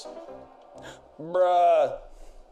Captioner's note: Mario lose sound; inhales